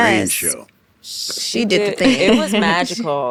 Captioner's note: chuckles